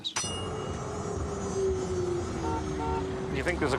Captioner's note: tram bell dings; tram whirring; horns honking